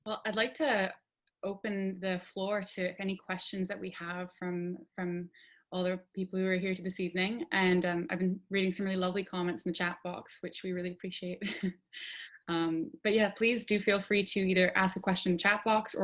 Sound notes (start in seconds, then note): 11.5 chuckles